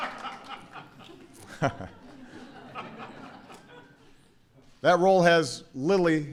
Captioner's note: laughter